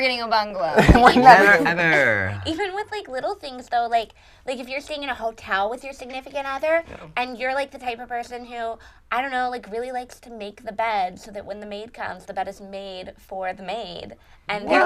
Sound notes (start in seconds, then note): 0.7 laughter